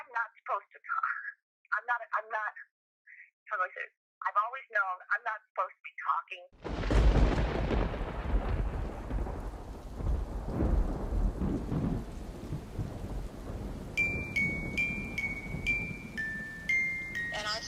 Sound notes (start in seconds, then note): 6.9 thunder crashing; 14.3 ominous music